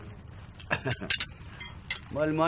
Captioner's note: laughter